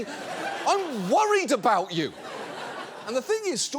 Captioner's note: audience laughs